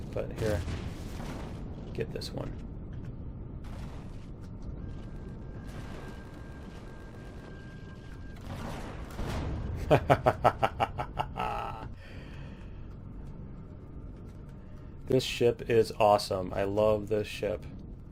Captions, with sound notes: [explosion] Here, get this one. [Cannons and miniguns firing] [Explosion] [laughs] The ship is awesome! I love this ship!